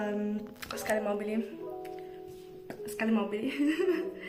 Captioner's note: in Italian